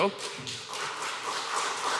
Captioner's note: applause